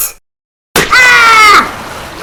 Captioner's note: splosh!